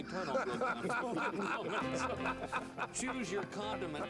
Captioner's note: laughing